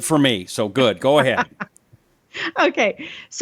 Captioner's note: laughs